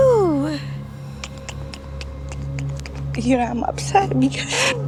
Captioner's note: clicking tongue